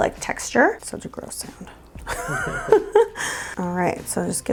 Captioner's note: laughs